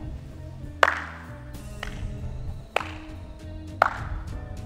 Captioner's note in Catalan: Aplaudiments